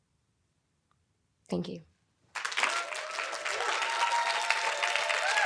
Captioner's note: audience applauding